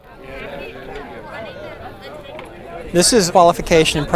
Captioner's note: background talking